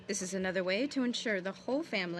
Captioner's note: speaking french